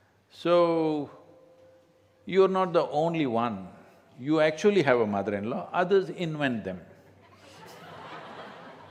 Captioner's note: laughter